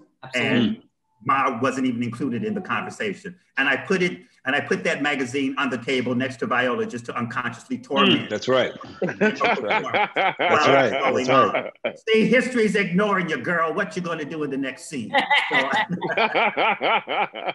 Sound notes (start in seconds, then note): 8.6 laughter; 15.1 laughter